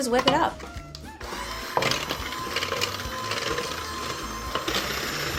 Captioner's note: mechanical whirring